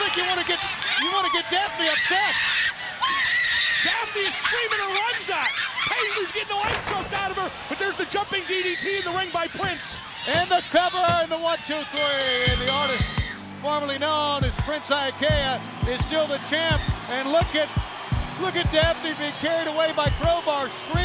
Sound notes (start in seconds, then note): 2.3 Daffney screaming; 10.3 hand smacking; 11.9 bell dinging